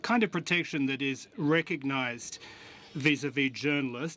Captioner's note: speaking French